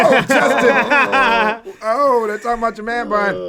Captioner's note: all laugh